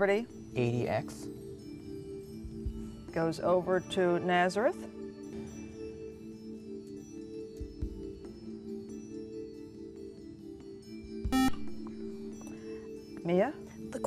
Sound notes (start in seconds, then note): 4.7 ethereal music; 11.3 buzzer